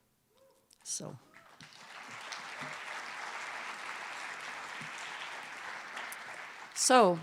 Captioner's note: cheers and applause